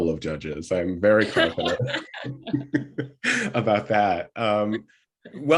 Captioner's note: laughter